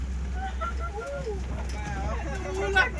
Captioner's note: maniacal laughter